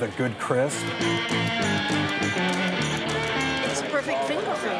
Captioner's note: chatter; upbeat music